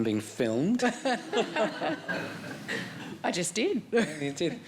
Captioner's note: all chuckling